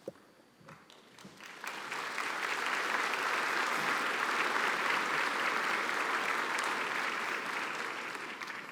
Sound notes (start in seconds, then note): 0.8 applause